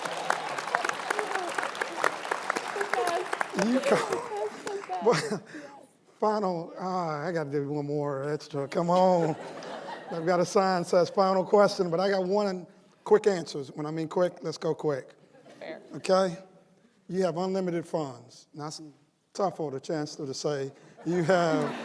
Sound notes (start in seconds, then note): 3.6 laughter; 4.2 applause